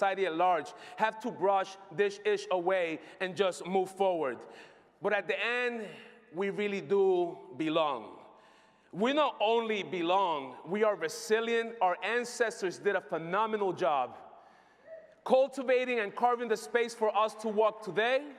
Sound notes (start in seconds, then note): none